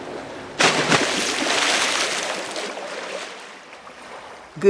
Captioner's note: epic cannonball splash